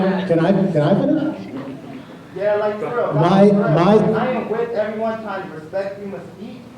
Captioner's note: shouting